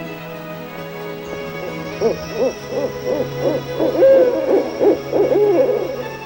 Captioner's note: owls hooting